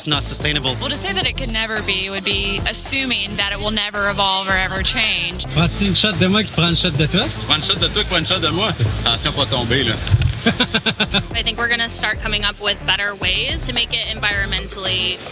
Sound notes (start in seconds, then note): 10.3 laughs